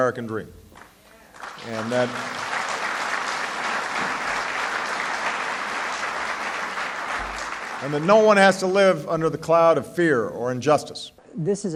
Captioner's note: applause